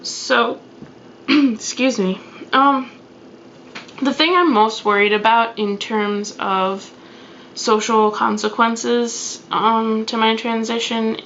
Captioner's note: coughs